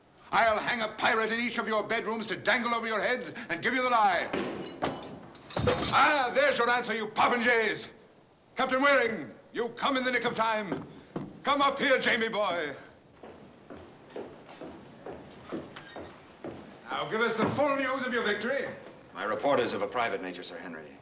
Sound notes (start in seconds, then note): 4.3 door opens